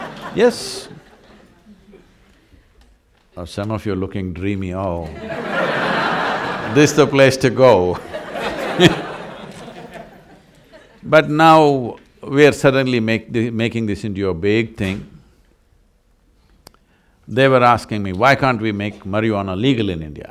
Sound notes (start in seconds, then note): 7.9 laughter